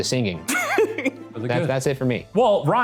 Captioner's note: laughing